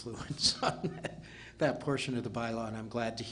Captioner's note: laughing